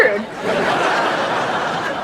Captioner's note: laughing